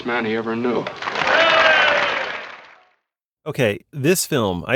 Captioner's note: applause